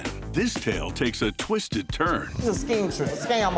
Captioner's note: audience laughs